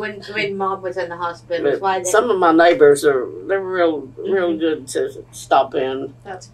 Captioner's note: laughs